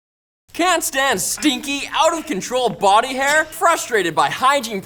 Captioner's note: voiceover